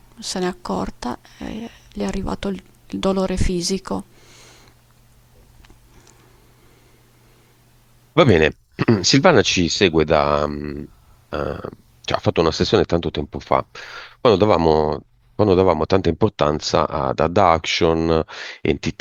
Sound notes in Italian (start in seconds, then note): 8.7 schiarire la voce